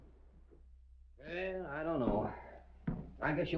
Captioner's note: sighing